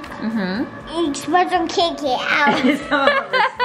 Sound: laughing

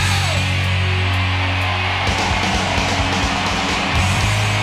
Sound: audience cheering

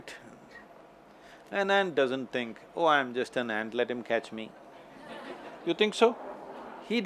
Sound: laughter

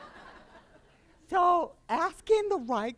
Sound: laughter

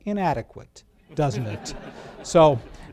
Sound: laughter

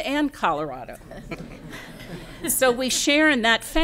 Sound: laughter

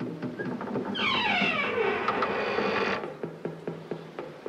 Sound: dramatic music; door creeks

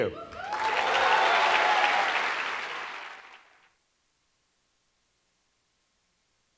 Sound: cheers and Applause

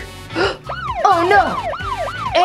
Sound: gasps; siren

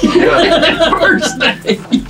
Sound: all laughing

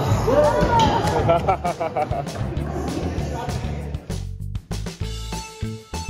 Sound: laughing

